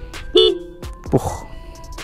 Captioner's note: horn